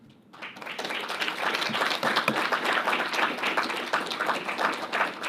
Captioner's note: audience applauding